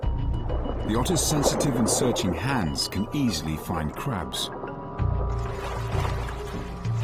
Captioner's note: dramatic music; water gurgles